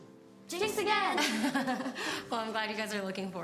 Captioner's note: Cassie laughs